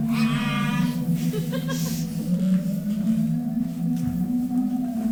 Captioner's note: performer laughs